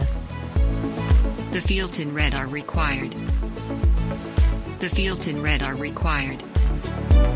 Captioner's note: text-to-speech voice: The fields in red are required